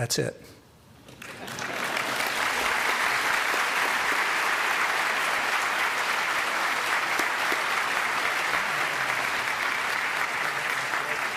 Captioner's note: applause